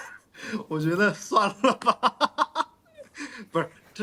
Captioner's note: laughs